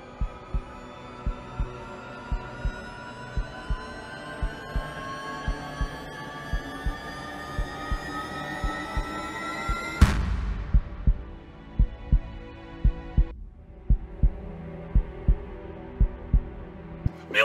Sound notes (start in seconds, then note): 10.1 blow thuds; 13.1 heartbeat continues thumping